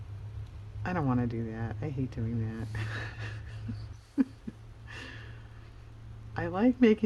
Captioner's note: laughs